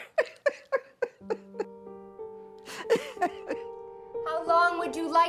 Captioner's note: laughs